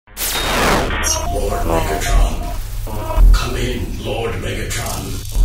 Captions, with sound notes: [ Electronic static ] Lord Megatron, come in Lord Megatron.